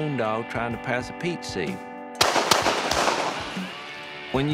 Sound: gunshots

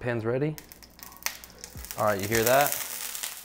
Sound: pan crackling

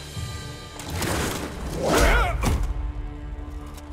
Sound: grunting

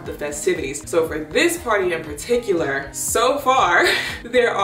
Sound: laughs

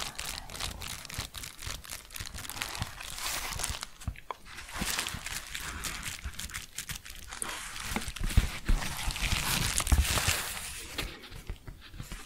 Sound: crinkling and shuffling; gentle tapping

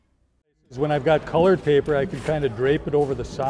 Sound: voiceover

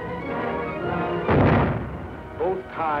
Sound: explosion

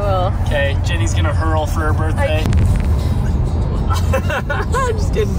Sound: laughs

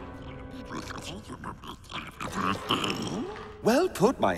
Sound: non-english speech

